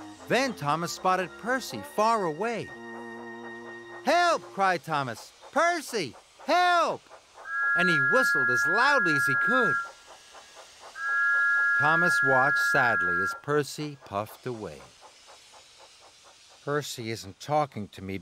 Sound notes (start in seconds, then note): 9.9 tooooot!